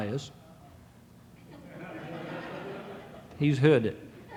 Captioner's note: audience laughing